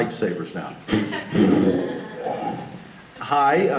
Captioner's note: audience laughter